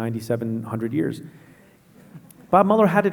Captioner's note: laughing